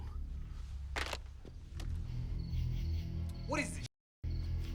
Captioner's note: phone thuds